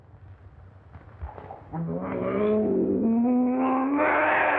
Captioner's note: growling